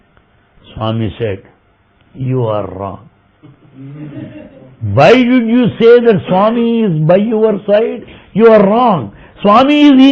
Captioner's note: laughter